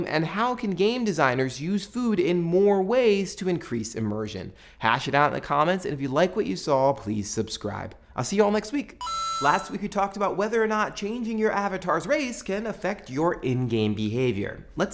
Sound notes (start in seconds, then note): 9.0 beeping